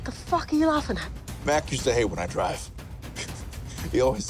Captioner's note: chuckles